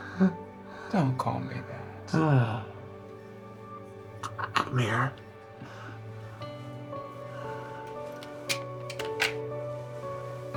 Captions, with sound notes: Don't call me that. *Florio giggles and exhales* Come here. *the clicking sound of eyeglasses placed on the table*